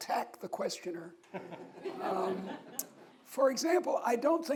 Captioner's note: audience laughs